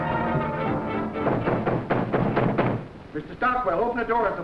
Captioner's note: knocking on door